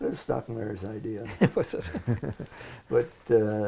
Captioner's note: laughter